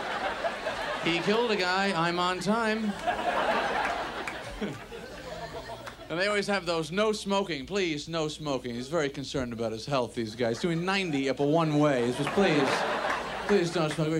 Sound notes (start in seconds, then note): 2.9 audience laughs